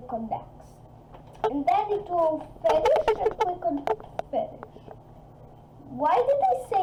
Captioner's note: scratch